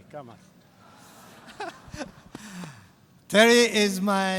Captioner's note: laughter